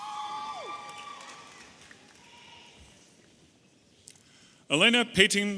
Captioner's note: audience applauding and cheering